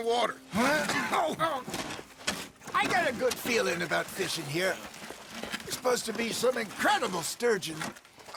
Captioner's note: sounds of effort